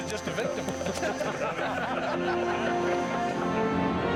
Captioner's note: all laughing